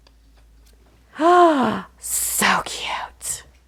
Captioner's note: gasps